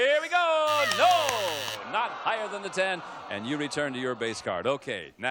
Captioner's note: audience groaning